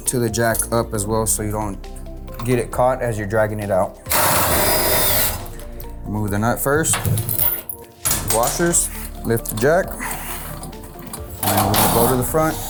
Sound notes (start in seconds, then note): 4.0 screw driver whirls